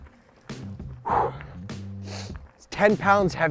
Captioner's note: breathes out